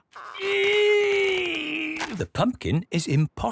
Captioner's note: straining